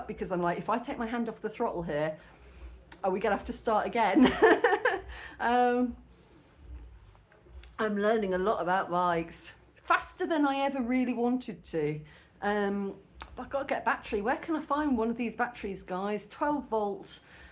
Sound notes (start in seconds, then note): 4.2 laughing